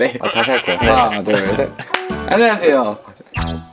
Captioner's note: clap!